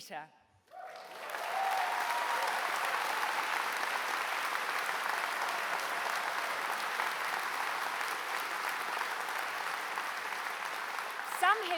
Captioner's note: applause